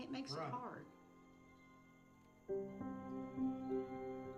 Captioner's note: chimes clinking